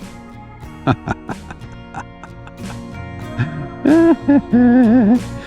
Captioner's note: laughter